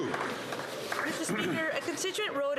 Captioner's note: some Applause